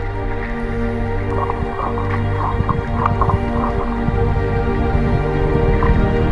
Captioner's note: sounds of the manatees chewing